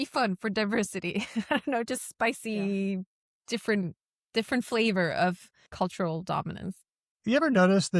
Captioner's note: chuckles